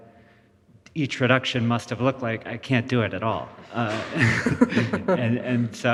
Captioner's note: laughs